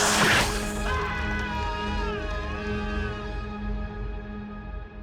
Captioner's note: spider screeching; George screaming